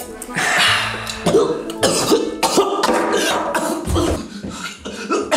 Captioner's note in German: hustet stark